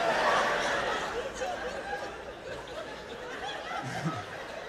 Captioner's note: laughter